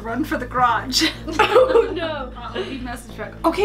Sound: laughs

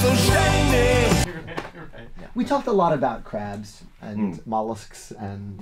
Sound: laughing

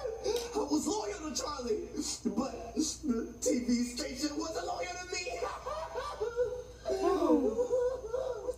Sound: sobbing; sighs

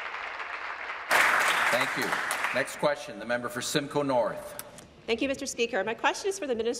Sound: applause

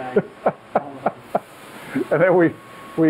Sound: laughing

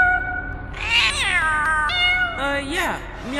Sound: cosmic meowing

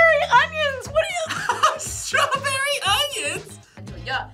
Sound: laughs

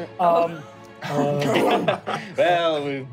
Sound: laughing

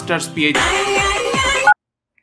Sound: phone rings

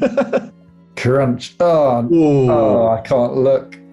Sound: laughing; horne + watson groan

